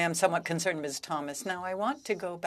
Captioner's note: speaking French